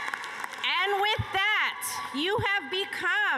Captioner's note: cheers and applause